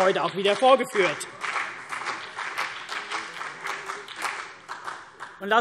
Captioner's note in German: Beifall CDU und BÜNDNIS 90/DIE GRÜNEN